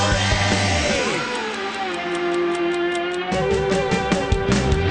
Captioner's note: clock ticking